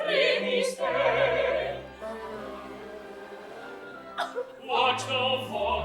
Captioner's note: wee jo blows her nose loudly